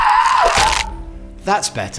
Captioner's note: splat